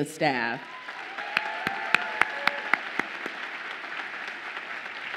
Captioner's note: audience applauds and cheers